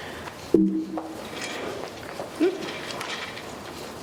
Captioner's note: computer beep